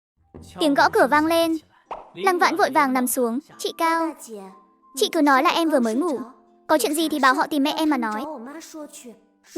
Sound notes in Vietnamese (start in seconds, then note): 0.3 Tiếng gõ cửa vang lên